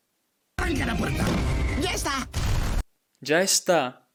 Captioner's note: speaking in Spanish